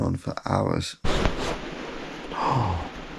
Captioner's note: thunder booms